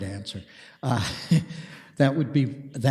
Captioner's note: deputy Mayor laughs